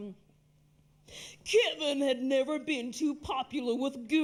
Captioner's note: dramatic announcement voice